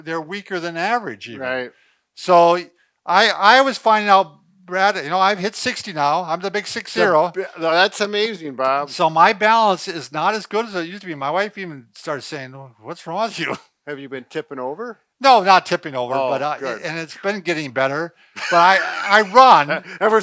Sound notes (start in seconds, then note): 13.6 chuckles; 16.2 laughs